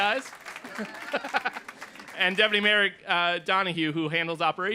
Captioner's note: laughter